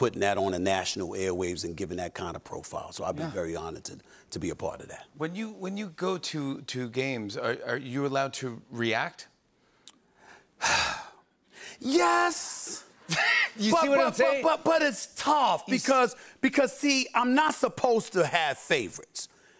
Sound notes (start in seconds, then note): 10.6 sighs